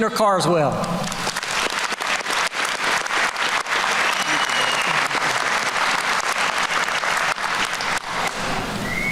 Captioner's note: applause